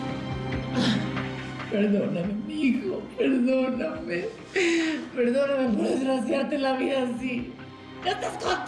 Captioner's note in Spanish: sollozando